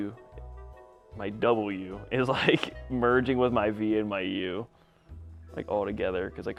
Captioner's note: laughs